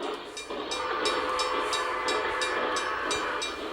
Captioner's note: bell ringing